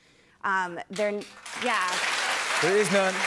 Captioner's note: cheers and applause